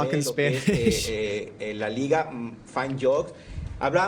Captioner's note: Spanish